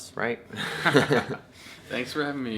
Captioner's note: both laughing